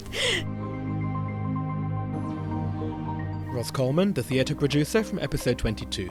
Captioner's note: voiceover